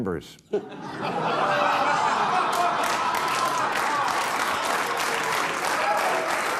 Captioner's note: audience cheering, applauding